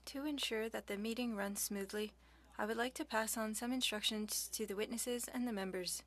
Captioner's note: speaking French